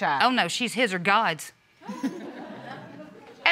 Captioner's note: audience chuckles